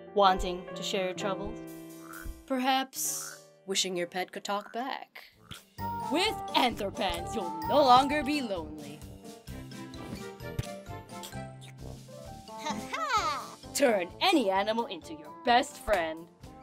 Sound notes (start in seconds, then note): 2.0 Tony croaking; 4.5 Tony croaking; 11.5 squelchy transformation sounds